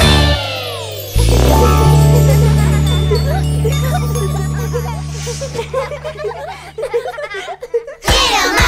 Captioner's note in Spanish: Música Alegre; Risas